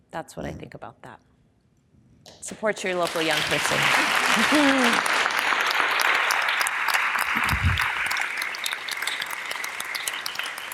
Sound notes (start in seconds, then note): 3.0 audience applause